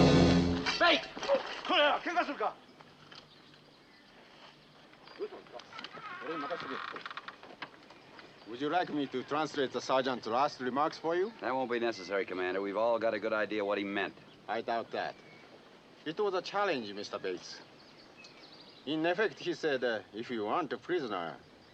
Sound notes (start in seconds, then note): 4.8 speaking japanese